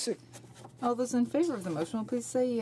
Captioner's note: speaking in french